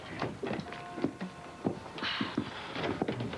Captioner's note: sigh